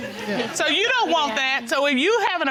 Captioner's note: audience laughing